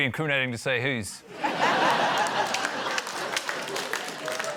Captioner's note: laughter, applause